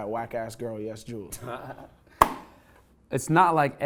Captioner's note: laughs